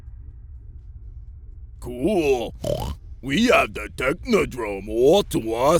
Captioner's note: oink